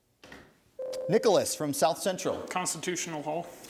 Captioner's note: ding